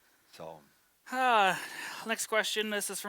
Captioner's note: sighing